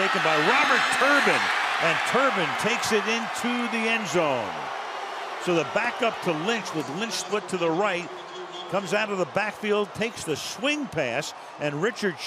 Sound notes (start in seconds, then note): 5.1 booing